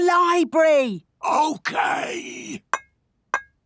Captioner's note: whispering